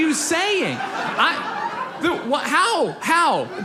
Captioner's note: audience laughs